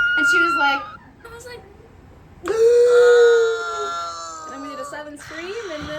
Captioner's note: gasps